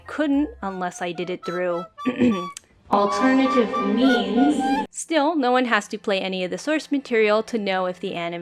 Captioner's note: cough